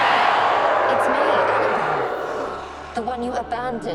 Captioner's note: ghastly howl